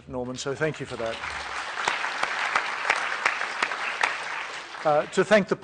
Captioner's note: applause